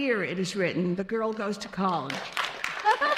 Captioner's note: applause; laughs